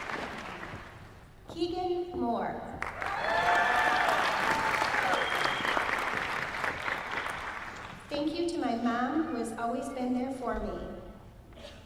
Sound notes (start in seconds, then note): 2.8 applause